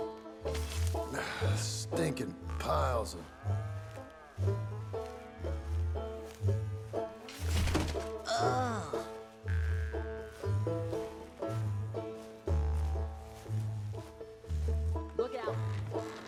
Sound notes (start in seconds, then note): 2.7 grunts; 8.2 Jack grunts in disgust